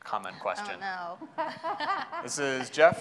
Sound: laughing

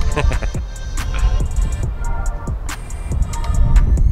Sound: laughing

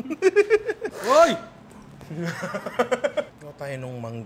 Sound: laughs

